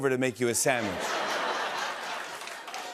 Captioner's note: laughter